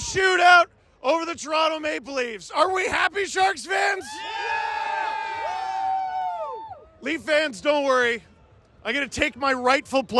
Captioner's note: crowd cheers